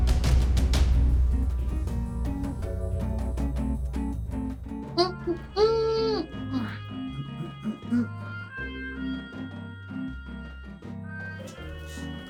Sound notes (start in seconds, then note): 4.9 guard humming; 5.2 upbeat music